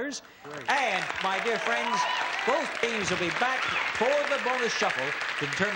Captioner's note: applause